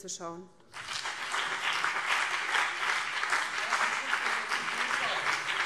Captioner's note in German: Beifall BÜNDNIS 90/DIE GRÜNEN